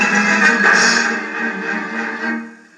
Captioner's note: crashes